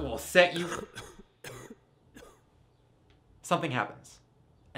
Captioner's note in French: Toux lourde